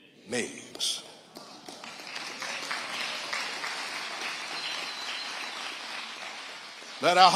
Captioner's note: audience applauding